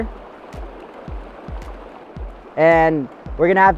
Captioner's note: running water